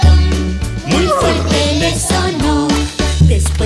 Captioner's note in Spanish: Relincho